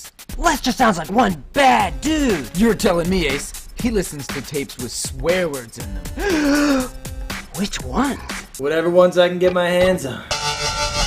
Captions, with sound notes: Lester sounds like one bad dude. You're tellin' me Ace, he listens to tapes with swear words in them. *gasp* Which ones? Whatever ones I can get my hands on.